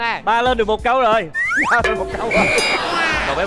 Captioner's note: laughing